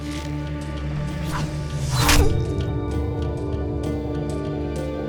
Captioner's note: arrow swoosh; groans